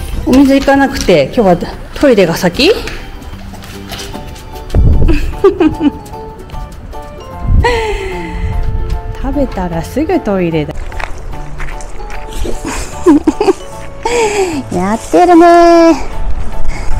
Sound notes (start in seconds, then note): 5.0 laughs; 12.3 laughs